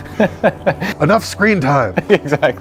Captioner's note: خندیدن